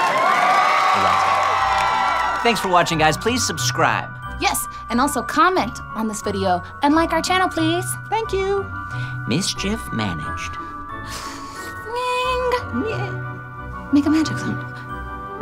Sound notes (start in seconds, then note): 11.2 magic sounds